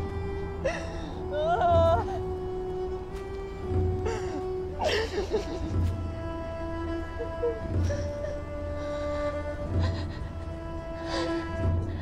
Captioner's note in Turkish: Ağlama sesleri